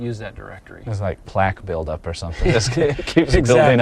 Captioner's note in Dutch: lacht